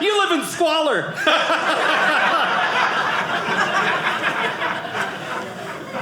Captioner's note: audience laughing